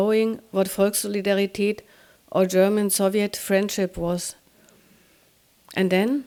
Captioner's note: speaking german